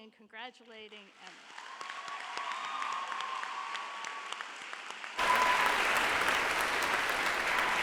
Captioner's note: audience applauds; audience cheers